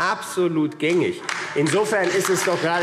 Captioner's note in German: Beifall AfD – Zurufe